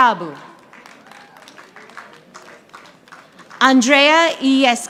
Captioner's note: audience applauding